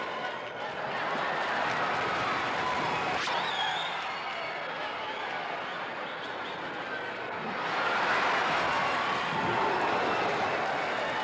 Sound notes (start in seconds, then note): 0.7 crowd laughs; 8.4 crowd cheers